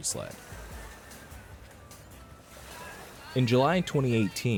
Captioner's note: students talking